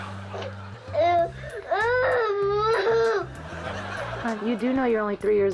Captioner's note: girl sobbing